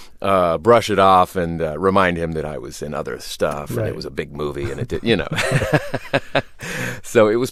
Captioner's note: laughter